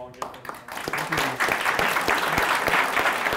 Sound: applause

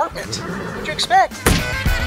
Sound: neighing; thud; jazz music

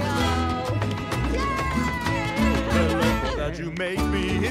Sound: laughs

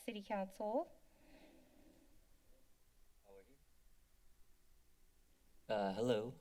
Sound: silence

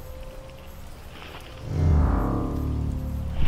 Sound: metallic creak

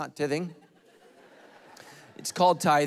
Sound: congregation laughing

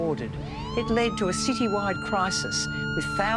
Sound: siren wails

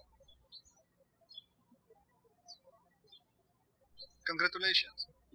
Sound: birds chirping

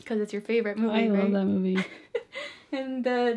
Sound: laughs

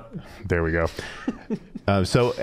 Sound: chuckling

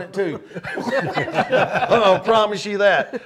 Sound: panelists laughing

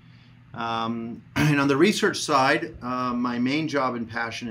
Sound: clears throat

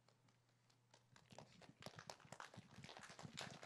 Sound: applause

